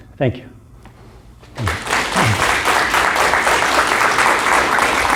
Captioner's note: applause